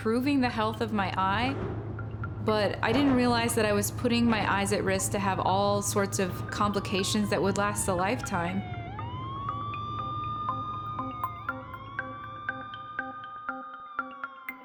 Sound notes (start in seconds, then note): 10.0 siren wailing